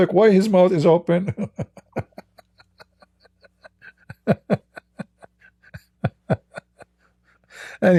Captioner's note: Ketawa